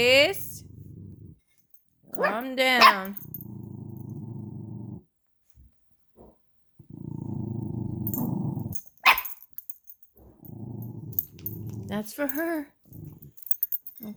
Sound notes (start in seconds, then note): 0.0 Roxy growls; 0.3 Roxy continues to growl; 2.8 Kashmere barks; 6.8 Roxy growling; 7.0 Kashmere puppy bark sounds